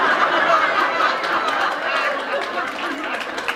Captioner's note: laughter